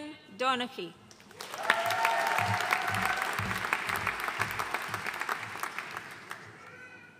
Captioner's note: audience cheering and applauding